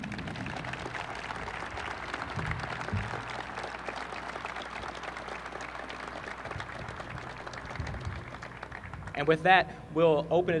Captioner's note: applause